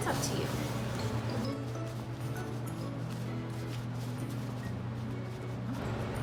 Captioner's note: ingredients mixing